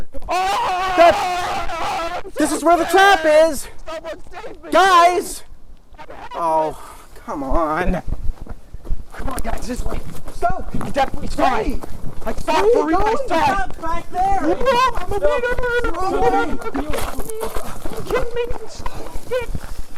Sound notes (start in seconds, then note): 0.7 stoke shouting; 3.8 stoke’s shouting continues; 17.8 voice fading